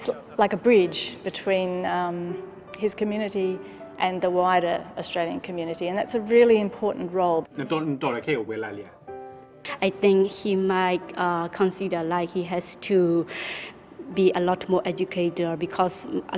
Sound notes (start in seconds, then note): 7.9 speaking in foreign language